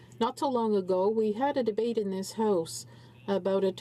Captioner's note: speaking in french